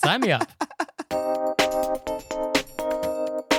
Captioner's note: giggling; musical Interlude